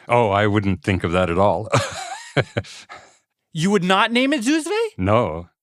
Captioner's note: laughs